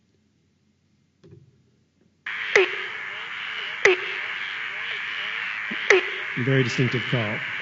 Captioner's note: sound of frog call